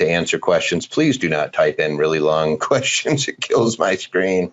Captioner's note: chuckles